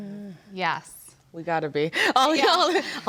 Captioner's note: laughs